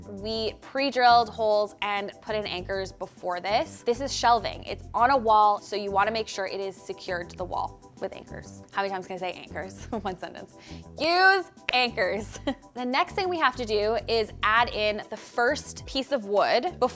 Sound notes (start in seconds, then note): 12.1 laughs